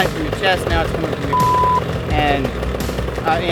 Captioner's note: beep